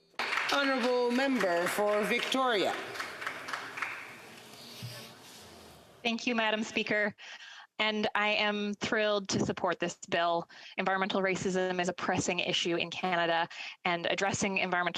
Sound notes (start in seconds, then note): 4.4 some Applause